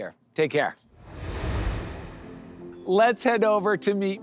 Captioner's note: air whooshes